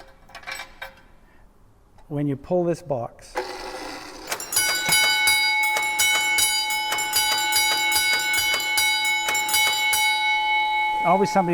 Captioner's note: bells ringing